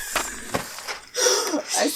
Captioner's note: laugh